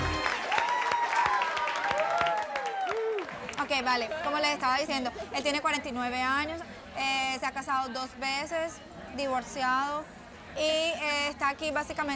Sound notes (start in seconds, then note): 0.0 cheers and applause; 5.1 speaking spanish